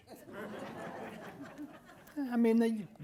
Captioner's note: audience laughing